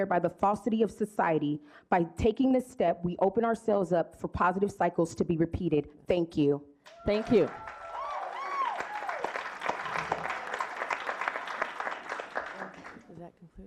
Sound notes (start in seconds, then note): 9.3 clapping